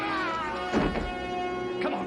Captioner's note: thud